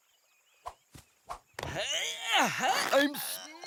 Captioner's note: grunts of effort